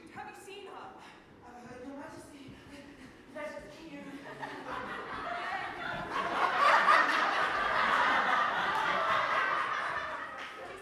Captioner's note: audience laughs